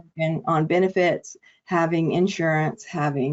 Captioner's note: audio distortion